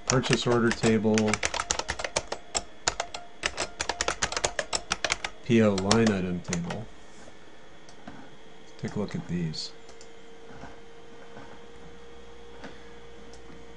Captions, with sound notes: Purchase order table. [ Typing ] PO line item table. Take a look at these.